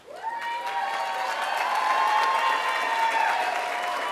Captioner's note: applause